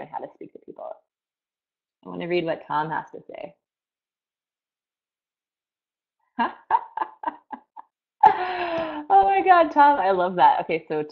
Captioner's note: laughs